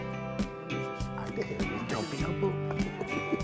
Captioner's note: laughing; chuckle